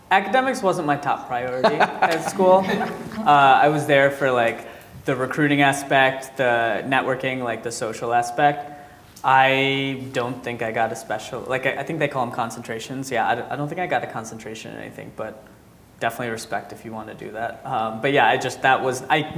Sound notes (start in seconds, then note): 1.6 audience laughing